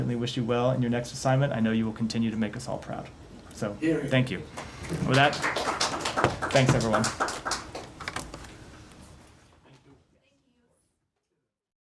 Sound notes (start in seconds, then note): 7.4 applause